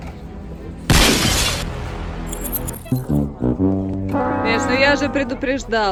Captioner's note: sound of broken glass